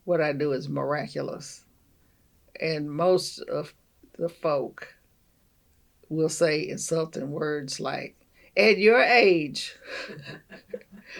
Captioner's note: laughs